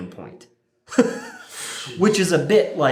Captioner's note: laughing